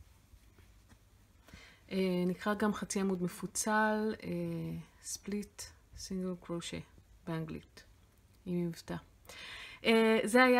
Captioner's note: with an accent